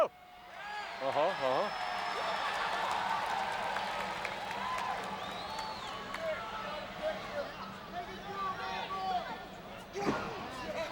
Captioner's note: applause